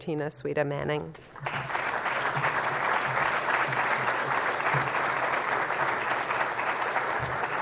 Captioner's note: applause